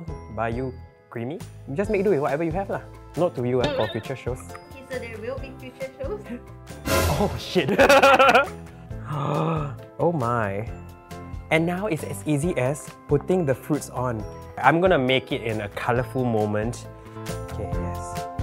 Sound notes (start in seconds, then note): 8.7 gasps